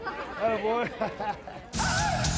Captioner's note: chuckles